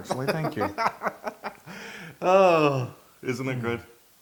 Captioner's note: laugh